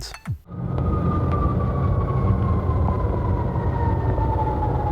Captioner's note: siren and other city road noise